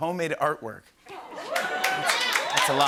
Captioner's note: cheering and applause